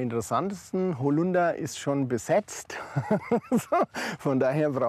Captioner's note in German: lacht